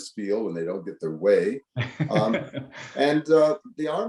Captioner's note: laughs